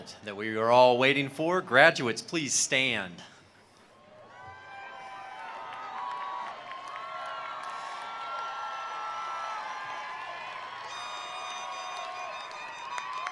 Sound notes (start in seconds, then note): 4.0 attendees cheering; 4.2 attendees applauding